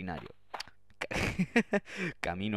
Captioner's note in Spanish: sonido con la lengua y el paladar